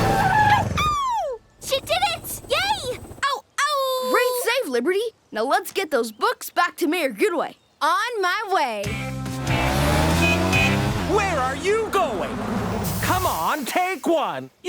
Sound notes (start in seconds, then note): 0.0 howling; 3.2 howling; 9.3 honking